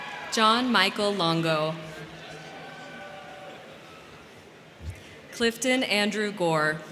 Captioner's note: crowd cheering